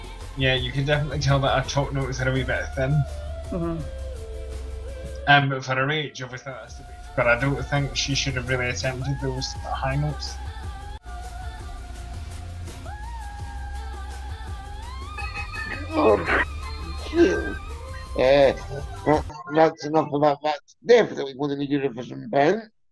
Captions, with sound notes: Yeah, you can tell that her top notes are a wee bit thin Uh but for her age, I get it but I don't think she should have attempted those high notes (Groan of pain) Eh.... That's... that's enough of that - that's defiantly going in the Eurovision bin